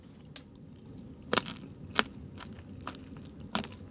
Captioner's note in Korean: 오도독